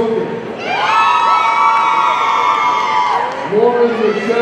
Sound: audience cheering

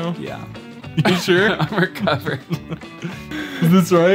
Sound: laughing

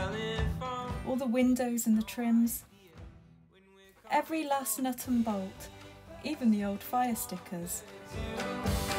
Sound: voiceover

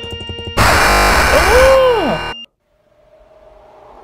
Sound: video game blaring; video game ringing; wind rushing

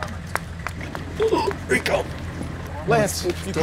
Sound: gasping

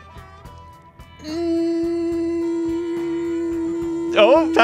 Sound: humming

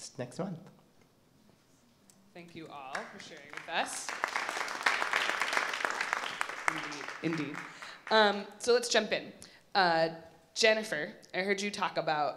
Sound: applause

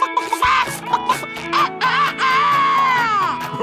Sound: clucking; crowing

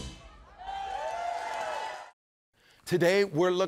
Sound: crowd cheers

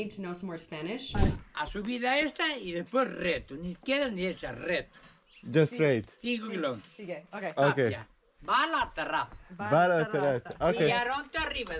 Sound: man Speaking SPANISH

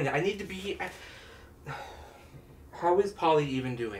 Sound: sighs

